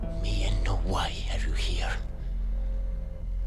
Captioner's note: speaking foreign language